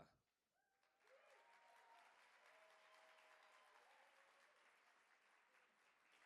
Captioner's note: audience applauding; audience cheering